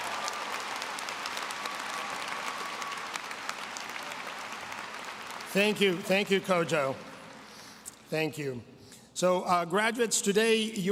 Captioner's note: applause